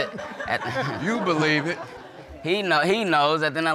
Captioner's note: audience laughing